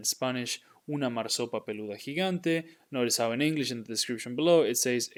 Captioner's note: speaking in Spanish